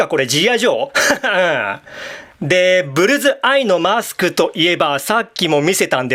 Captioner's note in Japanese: 笑い